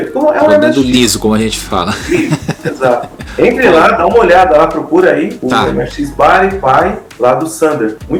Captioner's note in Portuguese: risadas